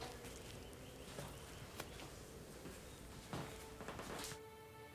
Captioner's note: birds chirping; sentimental music